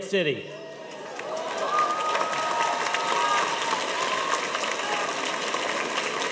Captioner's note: audience cheering and applauding